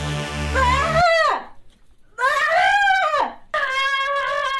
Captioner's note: Delia yelling